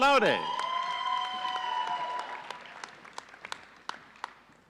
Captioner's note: audience cheering